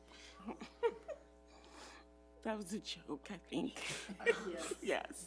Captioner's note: laughs